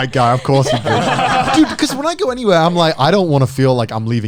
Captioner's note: group laughing